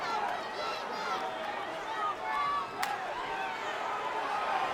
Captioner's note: fans shouting